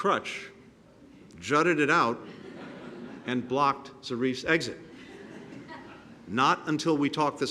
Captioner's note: laughter